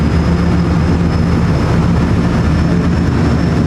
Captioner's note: engine